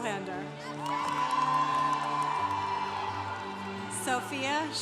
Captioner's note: congregation cheering